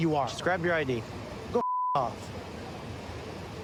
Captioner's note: beep